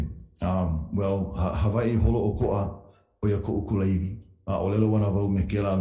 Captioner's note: speaking in Hawaiian